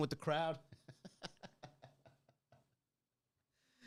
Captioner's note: laughing